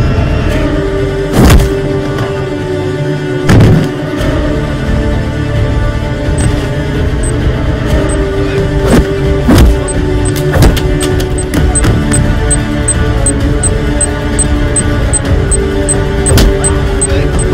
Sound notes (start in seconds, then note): 6.1 bomb beep; 16.0 slaps